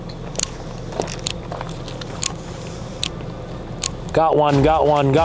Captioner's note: flashlight clicking